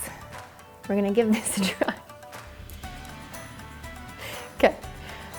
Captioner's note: laughs